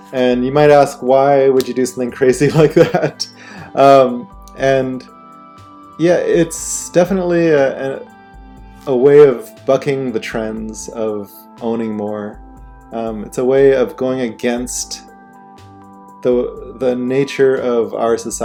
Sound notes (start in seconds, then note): 2.5 chuckling